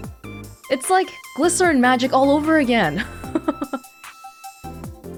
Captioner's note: chuckles